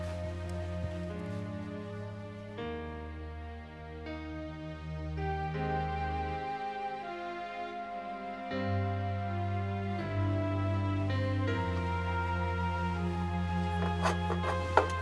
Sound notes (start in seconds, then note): none